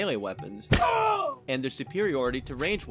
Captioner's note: thwack; pained scream